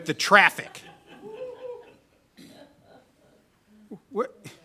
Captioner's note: members laugh